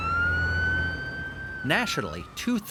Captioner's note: siren blaring